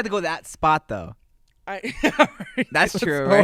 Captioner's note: laughing